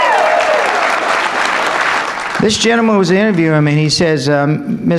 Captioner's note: applause